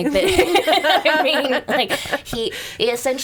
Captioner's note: laughing